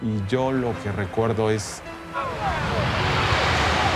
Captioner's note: water rushing